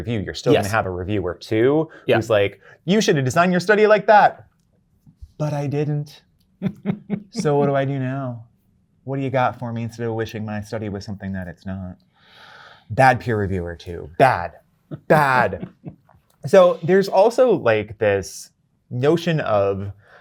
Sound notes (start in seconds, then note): 6.6 guy laughing